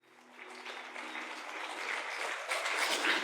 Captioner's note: audience applauding